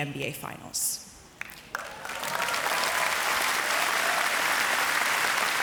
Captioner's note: audience applauds